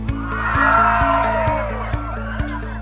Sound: cheering

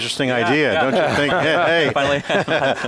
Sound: laughing

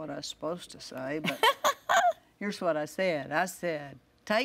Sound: laughs

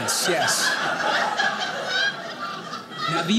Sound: audience laughing

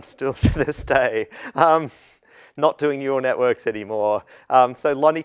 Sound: laugh

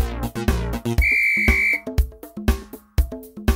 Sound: whistle trilling; funky music

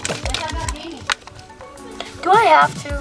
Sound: people speaking off camera

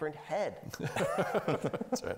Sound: laughing

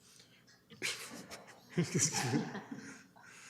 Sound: laughter

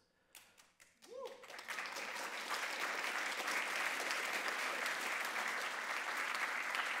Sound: audience cheering and applauding

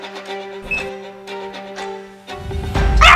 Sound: beep

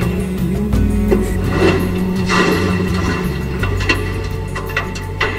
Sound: splashing water echo sounds

